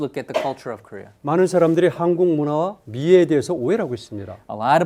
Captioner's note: speaking in Korean